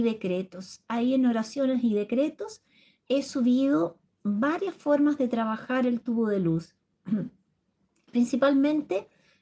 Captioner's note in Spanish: carraspeo